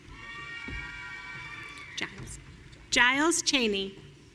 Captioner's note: audience cheering